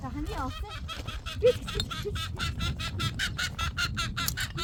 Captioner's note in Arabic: ضحك